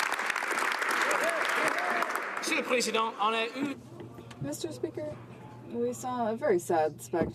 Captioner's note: some Applause